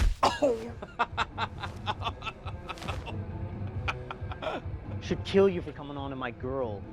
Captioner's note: laughter